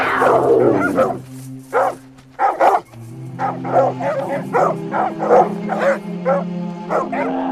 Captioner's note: the growls of dogs and snow leopard